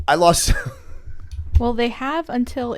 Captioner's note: chuckle